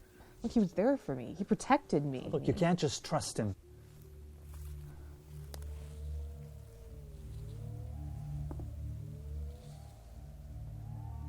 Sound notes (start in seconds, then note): 4.5 branch cracks